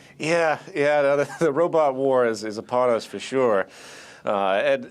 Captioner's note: laughing